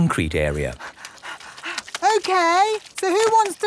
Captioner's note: panting